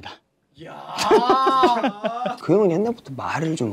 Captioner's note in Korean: 만족스러운 웃음